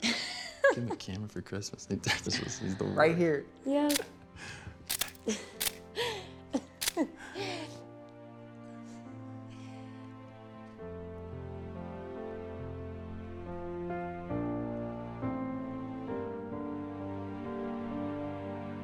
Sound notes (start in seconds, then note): 5.2 both laughing; 9.0 romantic music